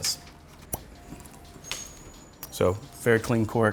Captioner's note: cork pops